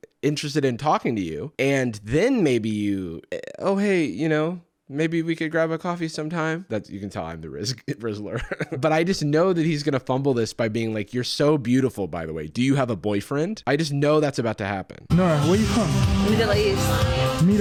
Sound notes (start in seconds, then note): 7.7 chuckles